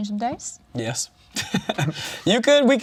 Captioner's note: laughs